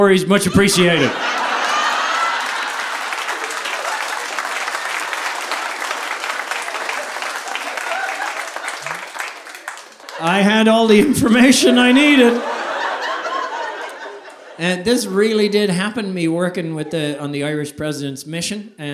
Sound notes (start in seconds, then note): 1.5 audience applauding